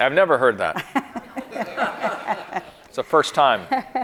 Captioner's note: audience and chuckling